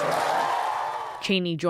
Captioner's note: applause; cheering